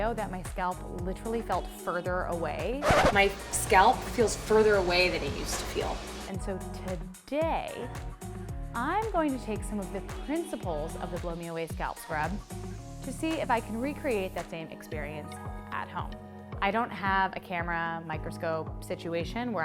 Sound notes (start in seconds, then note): 2.8 record scratch